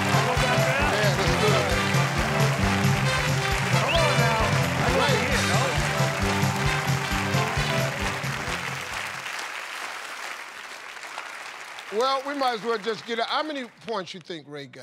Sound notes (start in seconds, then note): 0.0 cheers and applause; 3.8 whistles